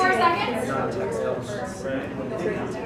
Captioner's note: background Discussion